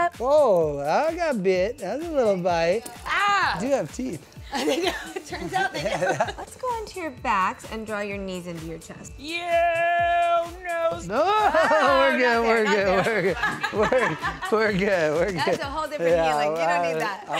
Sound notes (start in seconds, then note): 4.4 laughs